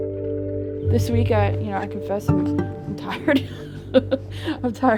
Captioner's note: laughs